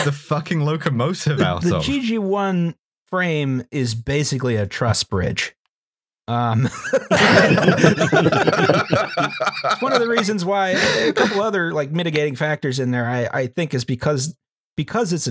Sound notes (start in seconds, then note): 6.5 laughter